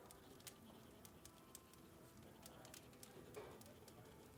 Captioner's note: fire crackling